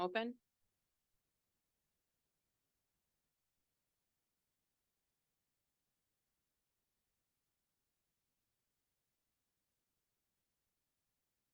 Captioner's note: silence